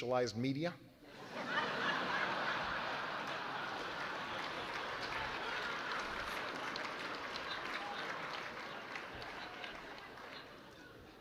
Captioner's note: laughter